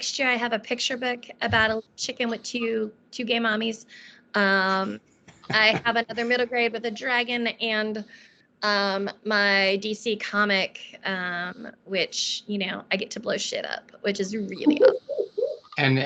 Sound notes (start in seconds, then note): 5.3 laughing; 14.6 laughing